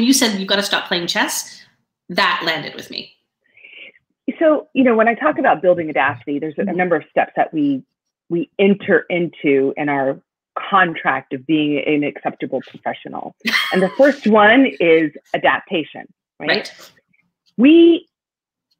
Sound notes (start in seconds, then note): 13.4 laughing